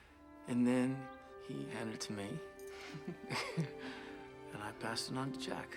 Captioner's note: laughs